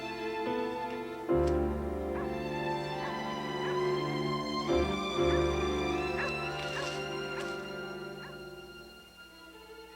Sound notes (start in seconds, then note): 3.9 dog barking